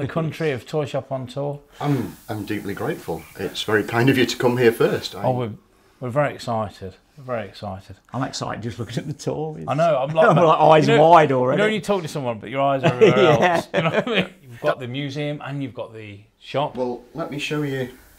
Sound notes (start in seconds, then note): 12.8 laughing